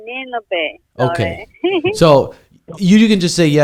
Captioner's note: masseuse speaks in foreign language; masseuse giggles